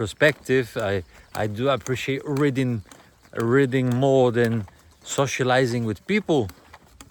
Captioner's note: birds chirping